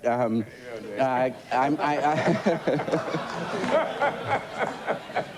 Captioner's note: shared laughter